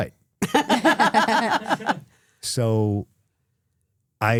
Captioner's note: laughing